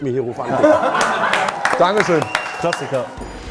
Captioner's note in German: Lachen, Applaus